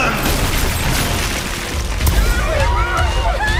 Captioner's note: crumbling; shouts, screams